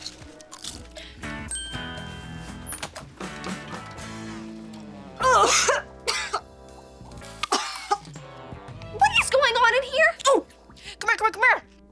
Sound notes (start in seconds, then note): 0.0 crunching; 5.2 coughing